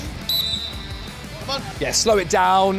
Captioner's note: whistle peeps